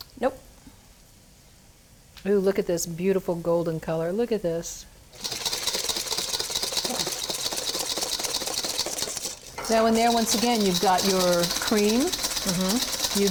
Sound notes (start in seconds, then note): 5.1 whisking